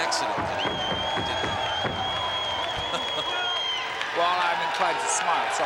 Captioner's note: crowd cheers, whistles